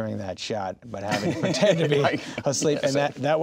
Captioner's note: laughing